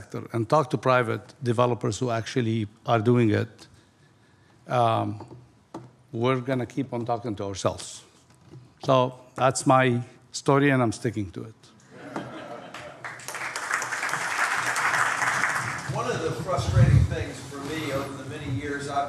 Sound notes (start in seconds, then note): 12.0 audience laughs and applauds